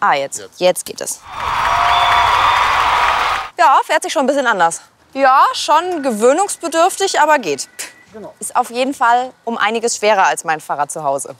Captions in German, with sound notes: Ah, jetzt geht es. (Jubel, Applaus) Ja, fährt sich schon anders. Ja, schon gewöhnungsbedürftig, aber geht. Ist auf jeden Fall viel schwerer als mein Fahrrad zu Hause.